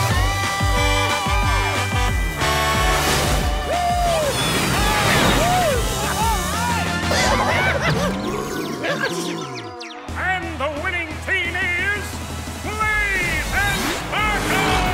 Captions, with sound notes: [Blaze honking] [cheering] Alright! And the winning team is... Blaze and Sparkle!